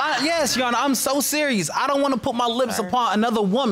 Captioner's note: audience laughs